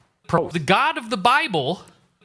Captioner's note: none